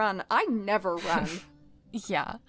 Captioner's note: chuckles